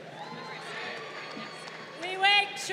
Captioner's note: crowd cheering